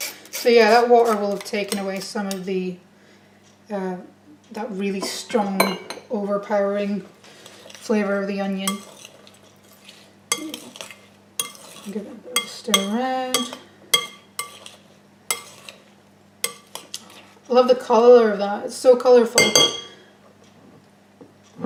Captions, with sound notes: So yeah, the water will have taken away some of the really strong, overpowering flavour of the onion (stirring and clunking) Give it a stir round... I love the colour of that, it's so colourful. (Sound of spoon hitting glass bowl)